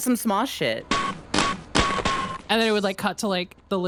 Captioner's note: rhythmic clanking